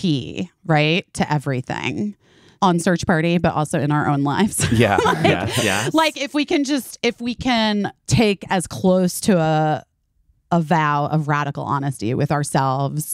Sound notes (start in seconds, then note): 4.6 busy laughing